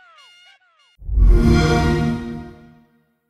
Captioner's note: xbox sound